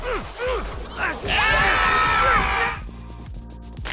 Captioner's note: screams